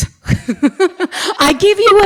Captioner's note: laughs